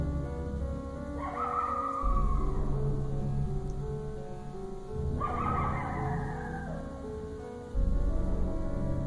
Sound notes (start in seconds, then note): 1.2 creature howling